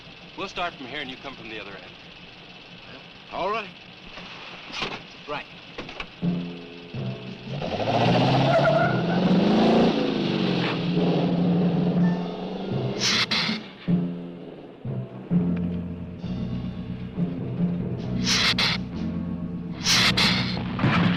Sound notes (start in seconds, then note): 6.2 dramatic music; 8.5 tires squealing; 13.0 lizard hissing; 18.2 lizard hissing